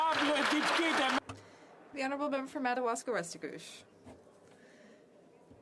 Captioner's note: some Applause